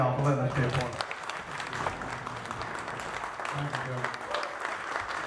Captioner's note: audience applause